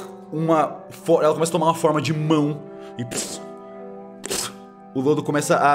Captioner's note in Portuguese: pff pff